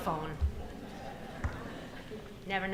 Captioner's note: audience laughing